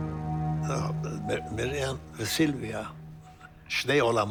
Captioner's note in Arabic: الصوت المنطوق باللغة الأجنبية